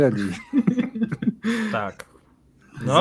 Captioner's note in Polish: śmiech